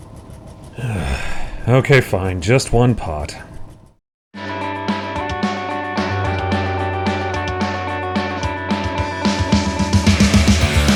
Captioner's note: sigh